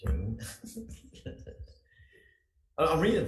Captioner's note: laughing